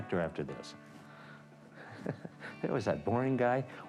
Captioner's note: chuckles